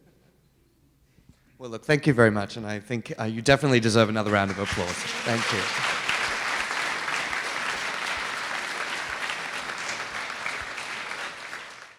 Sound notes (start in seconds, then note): 6.3 clapping